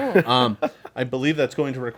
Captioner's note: group laughs